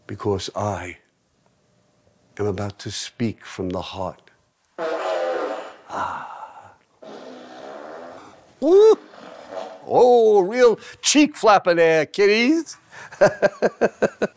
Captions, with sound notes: because I am about to speak from the heart [farting] oh, a real cheek flapper there, kiddies [Laughing]